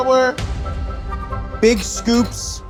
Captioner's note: metal slamming